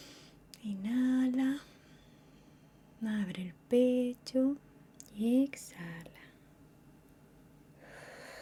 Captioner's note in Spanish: suspiro